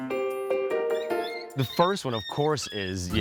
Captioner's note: puppy whining